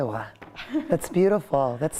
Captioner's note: laughter